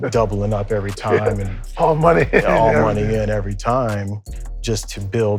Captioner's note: laughs